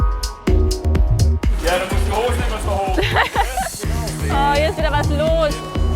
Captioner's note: laughs